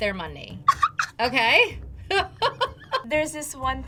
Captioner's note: laughs